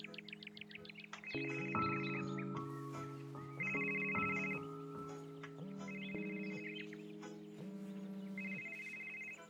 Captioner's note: phone ringing